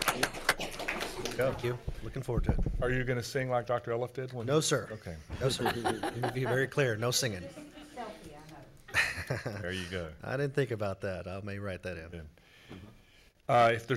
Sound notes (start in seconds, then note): 0.0 applauding; 8.1 speaking off microphone